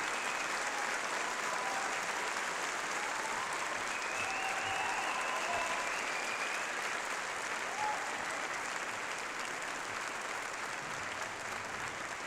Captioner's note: applause